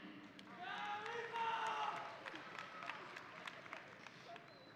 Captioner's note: audience applauding